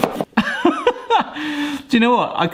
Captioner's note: laughing